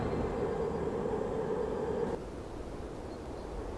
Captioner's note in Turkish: Rüzgâr sesi